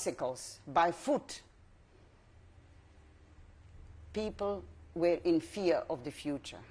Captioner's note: pauses for 3 seconds